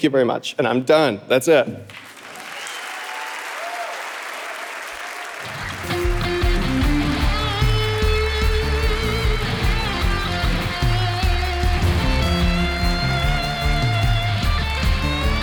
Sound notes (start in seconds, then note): 2.8 audience applauding; 6.7 upbeat music